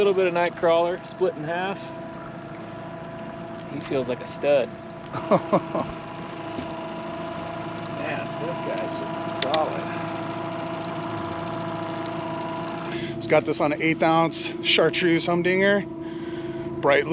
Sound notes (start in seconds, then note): 5.1 chuckling; 10.2 boat engine idling